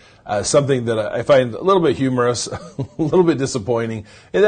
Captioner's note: chuckles